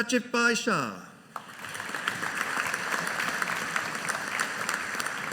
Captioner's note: audience applauding